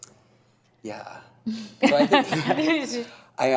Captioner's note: laughs